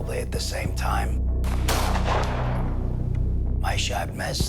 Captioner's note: gunshot